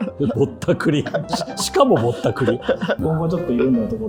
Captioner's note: laughing